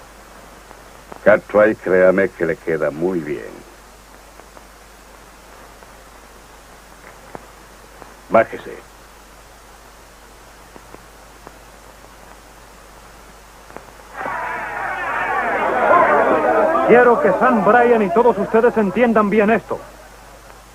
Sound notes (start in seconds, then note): 14.4 clamoring